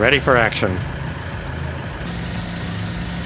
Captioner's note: sound of a deep diesel engine rumble